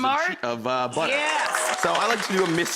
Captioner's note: audience applauds